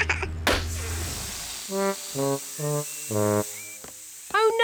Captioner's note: laughs; tire pops, hisses